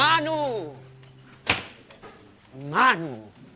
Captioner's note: door closes